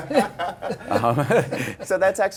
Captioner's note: laughter